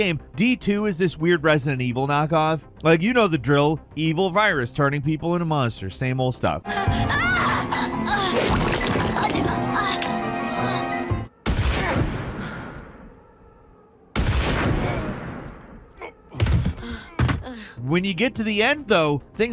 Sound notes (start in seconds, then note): 7.1 character screams; 7.1 flesh squelches; 11.5 gunshots bang